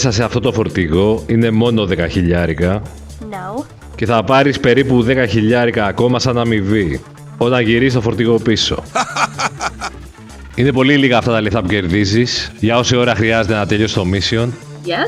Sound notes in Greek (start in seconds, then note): 8.8 γέλια